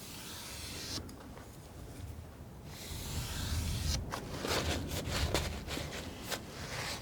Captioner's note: scratching